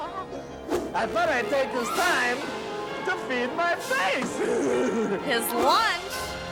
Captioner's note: ghoul laughs; laughs